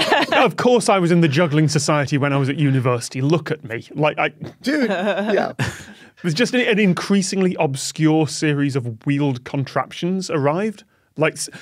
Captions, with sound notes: Of course I was in the juggling society when I was at university. Look at me. Dude, yeah. (chuckles flatly) It was just an increasingly obscure series of wheeled contraptions arrived.